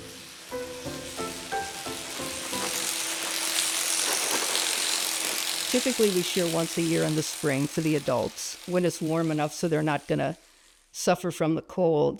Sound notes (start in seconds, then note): 0.0 playful music; 2.4 machine buzzing